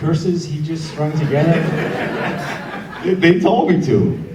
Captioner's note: audience laughs